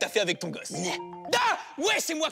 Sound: shouting

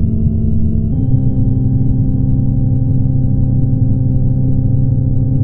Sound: tone shifts higher

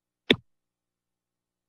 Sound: thuds

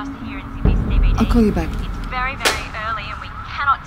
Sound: phone banging

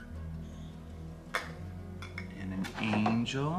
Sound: objects hitting

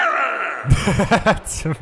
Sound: laughing

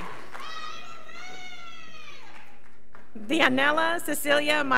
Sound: girl screaming

